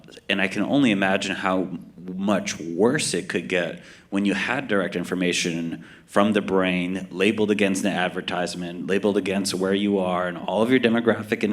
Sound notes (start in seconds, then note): none